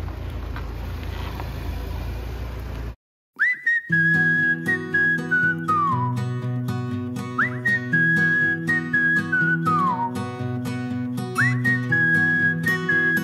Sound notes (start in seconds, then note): 5.1 pretending to be able to whistle well